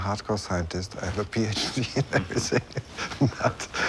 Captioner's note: laughing